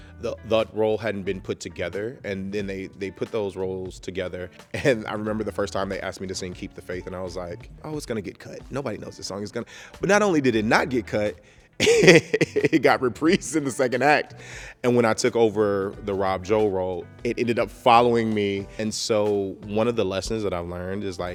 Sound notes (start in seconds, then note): 11.8 chuckles